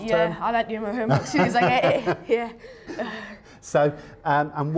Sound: laughs

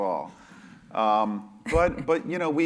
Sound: laugh

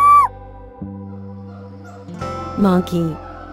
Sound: monkey sound

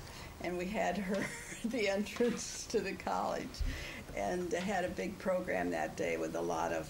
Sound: laughs

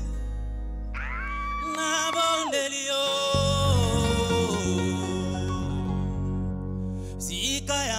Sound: cheering

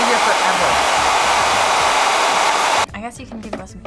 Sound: blow dryer blows

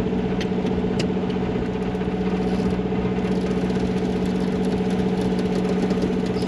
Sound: winch sounds

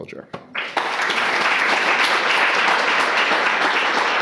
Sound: audience applauding

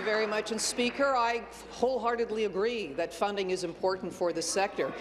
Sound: applause

